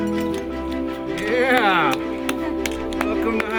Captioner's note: clapping